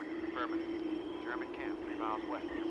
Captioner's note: radio Voice